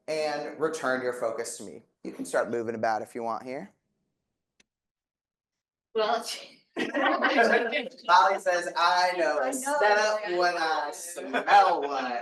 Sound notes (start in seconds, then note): 6.8 audience laughing; 7.0 audience chattering